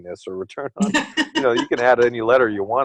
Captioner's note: laughter